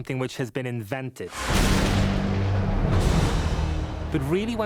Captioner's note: thunder crashing